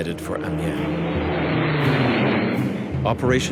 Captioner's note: jet engine roaring